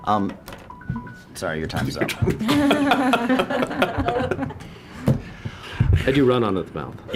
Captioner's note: laughter